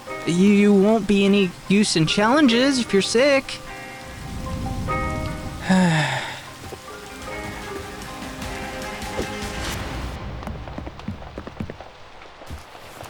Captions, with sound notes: You won't be any use in challenges if you're sick. [sighs]